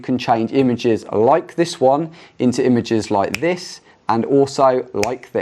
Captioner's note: fingers snapping